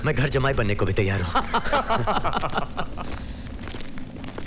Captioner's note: Laughs